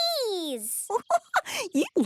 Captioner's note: giggling